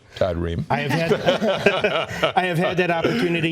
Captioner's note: laughter